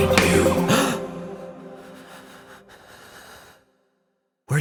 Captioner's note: man gasps